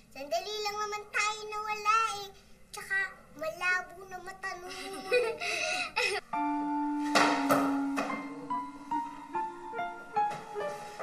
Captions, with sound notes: We weren't gone long. Besides, she's got poor eyesight. [Ethel giggles] [tense music playing]